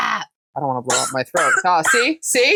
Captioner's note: cat immediiately coughs